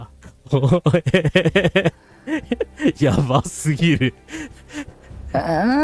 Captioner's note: laughter